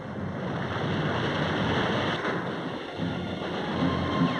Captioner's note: waves crashing